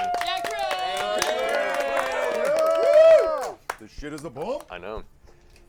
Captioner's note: cheers